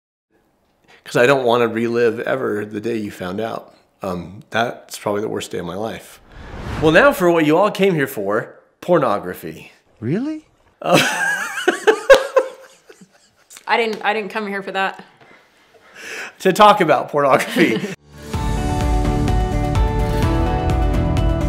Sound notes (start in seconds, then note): 6.1 whooshing sound; 10.8 laughs; 17.9 uplifting music